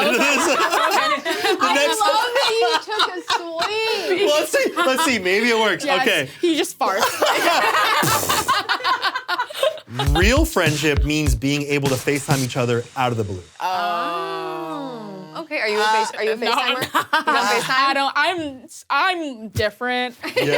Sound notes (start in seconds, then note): 0.0 people laughing; 8.0 imitates fart; 9.3 people laughing